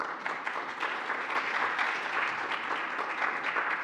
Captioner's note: applauding